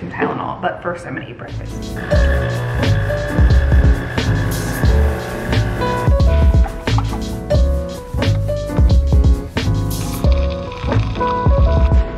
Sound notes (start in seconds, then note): 2.0 relaxing piano music; 3.9 coffee maker buzzes; 6.2 relaxing piano music